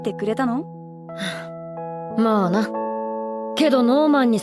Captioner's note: sigh